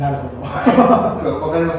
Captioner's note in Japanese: 爆笑